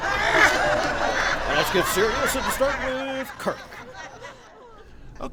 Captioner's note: audience laughs